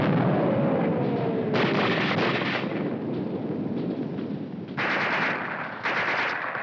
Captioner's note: bomb exploding; guns firing